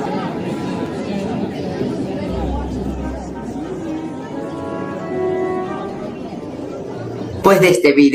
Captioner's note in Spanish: Ruido de alumnos